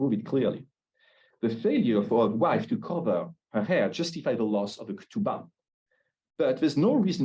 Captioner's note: Hebrew